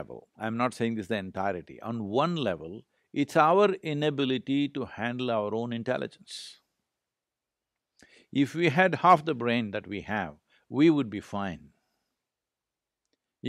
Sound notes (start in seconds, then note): none